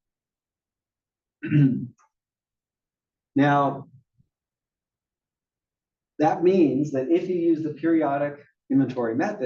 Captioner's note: cough